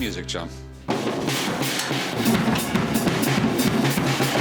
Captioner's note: banging